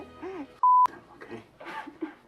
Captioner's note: beep